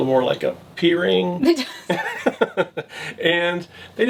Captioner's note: laughs